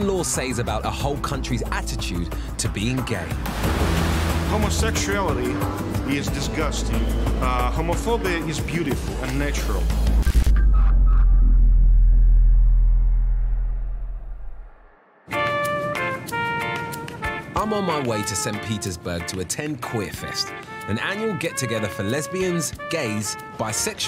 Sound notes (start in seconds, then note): 3.3 water splashing; 15.1 lively music